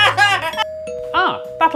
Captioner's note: ding dong